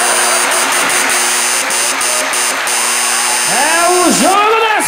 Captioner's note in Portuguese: campainha e aplausos